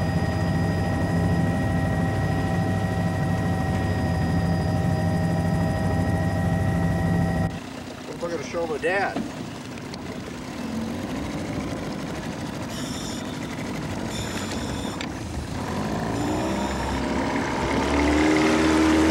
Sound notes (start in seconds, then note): 10.2 boat motor humming